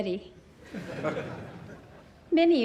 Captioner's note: laughter